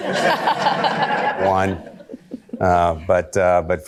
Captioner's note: audience laughter